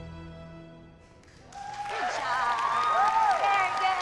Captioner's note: applause and cheering